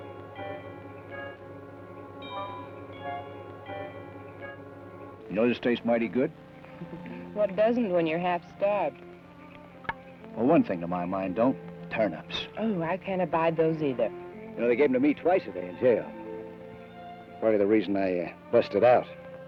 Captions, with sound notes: - You know, this tastes mighty good. - (chuckles) What doesn't when you're half starved? - Well, one thing in my mind don't. Turnips. - Oh, I can't abide those, either. - You know, they gave 'em to me twice a day in jail. Part of the reason I busted out.